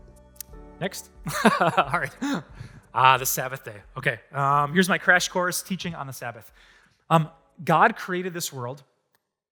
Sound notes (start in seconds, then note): 0.0 audience: Laughter; 1.2 pastor: Laughter